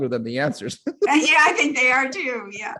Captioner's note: laughing